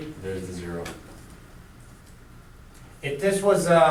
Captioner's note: voiceover